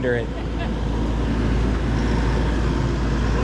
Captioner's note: motor whirring